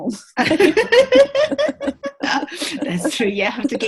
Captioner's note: laughing